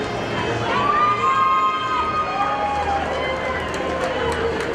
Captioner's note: audience cheers